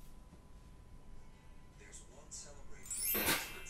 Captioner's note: sparkly Noise from another room